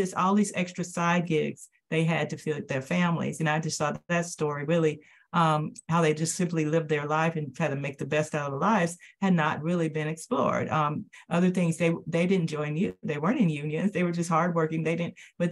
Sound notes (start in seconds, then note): none